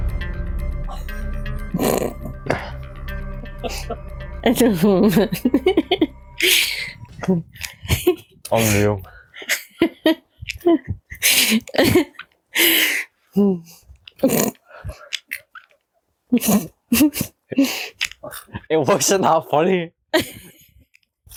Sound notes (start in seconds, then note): 4.6 laughter; 20.1 laughter